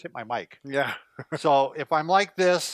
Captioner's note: laughs